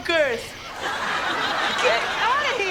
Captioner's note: off-screen laughter